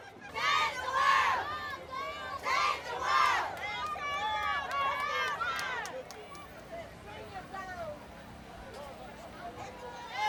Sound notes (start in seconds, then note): 3.4 crowd cheering; 8.0 festive street ambience